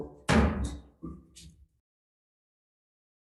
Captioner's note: gavel bangs